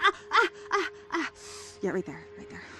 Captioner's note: Andrea winces